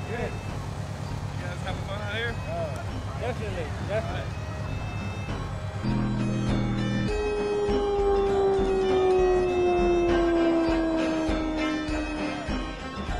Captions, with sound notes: - Are you guys having fun out here? Yeah. Yeah. Yeah. Definitely. (vehicle engine roars) (Celtic punk music)